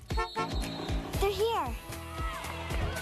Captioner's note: Enclave honks